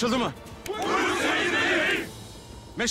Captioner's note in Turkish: Hepsi bir ağızdan